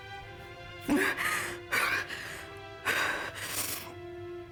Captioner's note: Rachel breathes